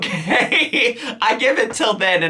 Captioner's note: laughs